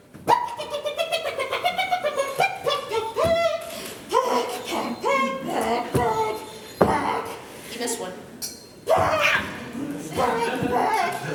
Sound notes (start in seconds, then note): 0.6 laughter